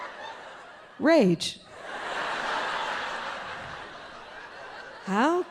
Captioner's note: audience laughing